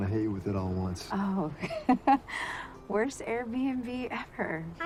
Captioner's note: laughing